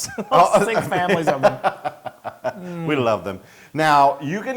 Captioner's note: laugh